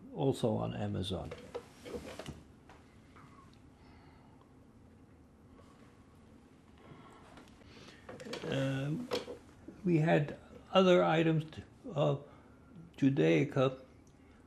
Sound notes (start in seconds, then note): 2.3 pauses 6 seconds